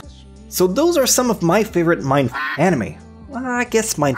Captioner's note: quack